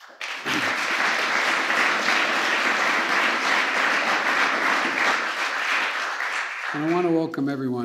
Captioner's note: applause